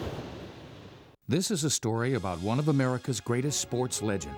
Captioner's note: voiceover